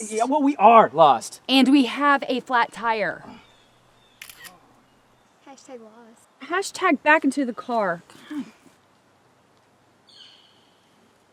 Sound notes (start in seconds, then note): 4.2 camera shutter clicks